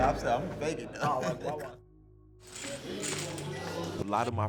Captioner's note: laughs